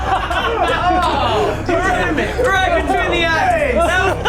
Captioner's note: laughter